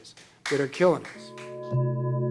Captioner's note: claps